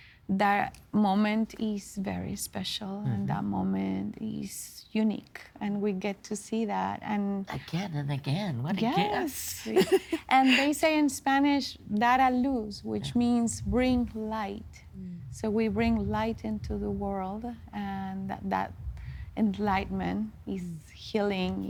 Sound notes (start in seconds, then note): 9.0 laughing; 11.6 speaking Spanish